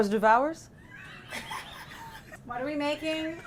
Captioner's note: laughs